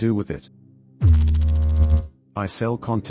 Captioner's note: electrical noise